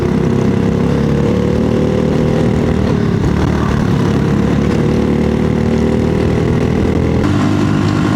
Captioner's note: engine noise